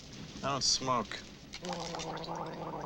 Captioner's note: gargles